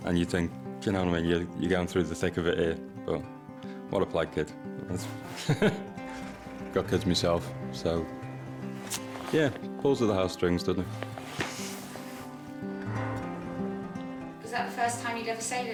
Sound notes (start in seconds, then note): 5.2 laughs; 12.6 energetic music